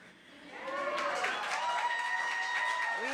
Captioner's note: cheering